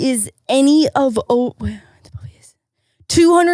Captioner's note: speaking faintly